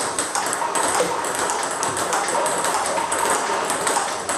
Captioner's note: ball ping pong hitting continues